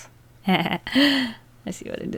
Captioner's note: hahaha, sharp inhale